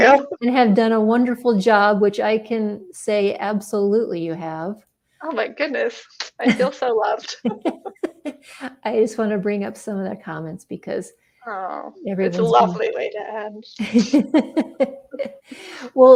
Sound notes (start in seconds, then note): 7.2 laughs; 7.3 laughing; 13.8 laughing